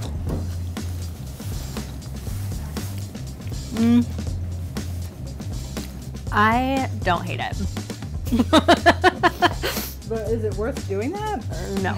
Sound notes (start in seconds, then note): 0.3 upbeat music; 8.3 laughing